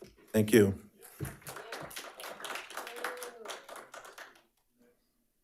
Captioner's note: audience applauding